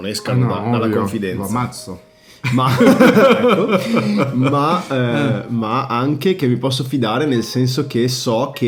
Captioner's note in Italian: risate